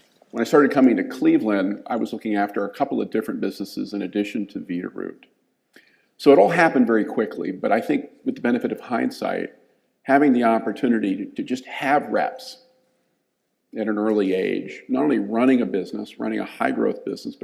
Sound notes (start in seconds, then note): none